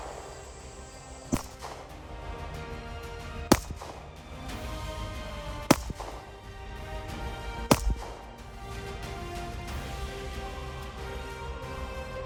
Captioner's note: gun shots; gun shots